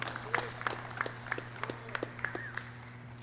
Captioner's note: clapping